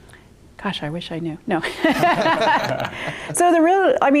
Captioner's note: laughs loudly